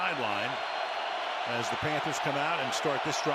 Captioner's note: cheering